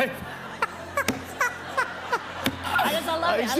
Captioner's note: laughs